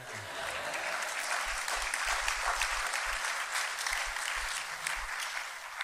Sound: laughter and applause

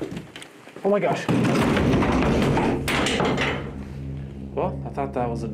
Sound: crash

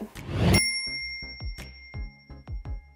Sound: ding

